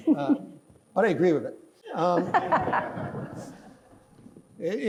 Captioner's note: laughing